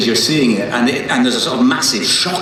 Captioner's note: none